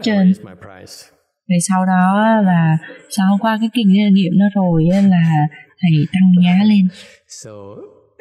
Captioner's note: laughter